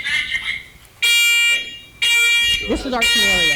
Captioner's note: alarm